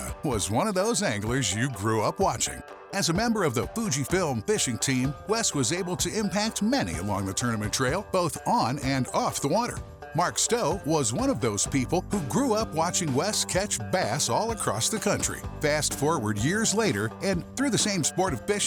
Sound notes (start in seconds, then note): none